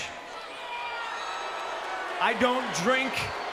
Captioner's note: crowd cheers and boos